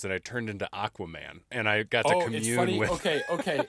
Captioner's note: laughing